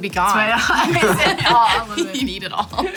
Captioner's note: laughing